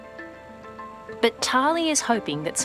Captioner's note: none